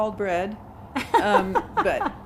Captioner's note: laughs